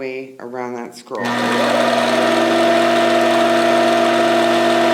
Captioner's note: machine whirring